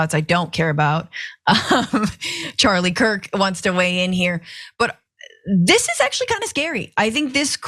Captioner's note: laugh